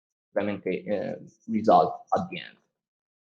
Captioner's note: murmurs